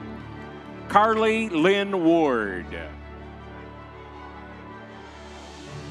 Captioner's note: crowd cheering